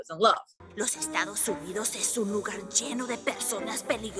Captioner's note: speaking Spanish